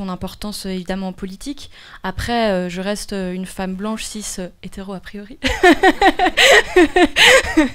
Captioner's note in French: rires